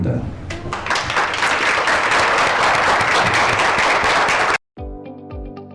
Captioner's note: aplause